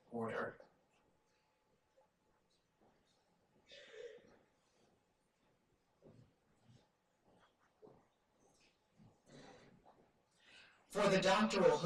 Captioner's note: silence